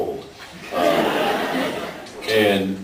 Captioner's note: laughs